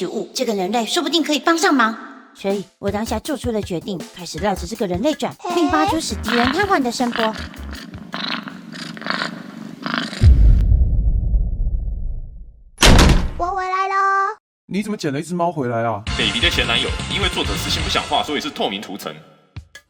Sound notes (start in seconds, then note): 7.1 snores